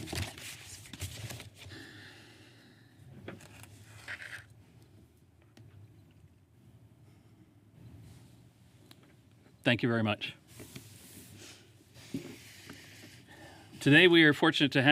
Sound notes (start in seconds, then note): 2.8 moment of silence